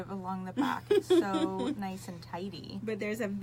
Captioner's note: laughs